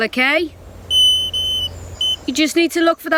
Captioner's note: beeping